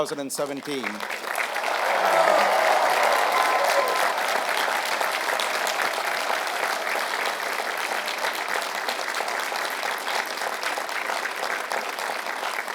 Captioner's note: applause